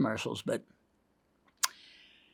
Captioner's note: tongue clicks